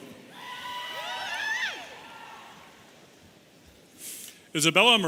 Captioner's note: audience cheering